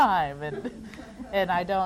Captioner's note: audience laughs